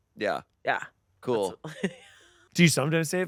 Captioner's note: laughing